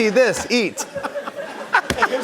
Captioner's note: laughter